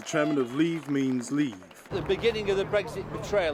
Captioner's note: applause